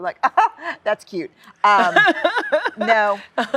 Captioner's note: laughs